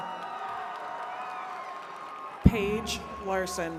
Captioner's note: attendees cheering